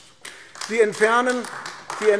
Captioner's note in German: Beifall AfD